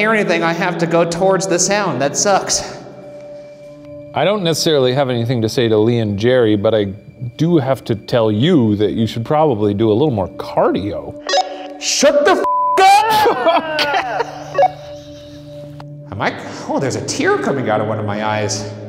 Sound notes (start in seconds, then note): 12.4 beep; 12.9 laughing